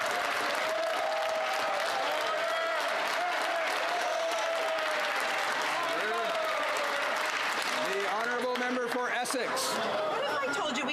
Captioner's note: some Applause